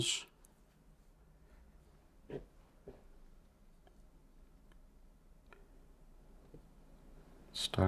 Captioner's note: silence